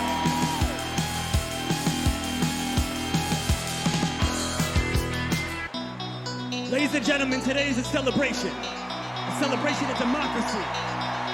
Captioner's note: cheers and applause